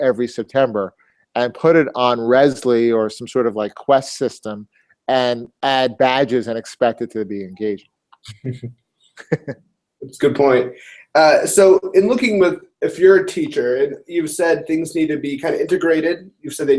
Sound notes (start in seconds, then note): 9.2 laugh